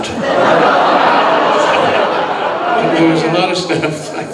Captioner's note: audience laughing